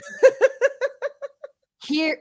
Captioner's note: laughs